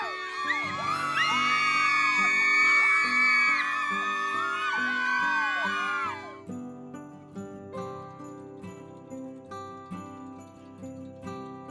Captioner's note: cheering